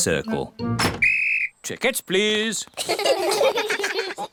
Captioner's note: blows whistle; all laugh